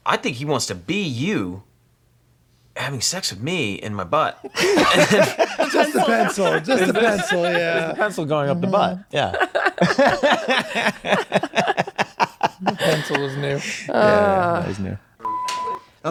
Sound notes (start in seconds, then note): 6.4 group laughing; 11.1 group laughing